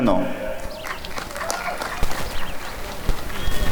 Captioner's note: applause and cheering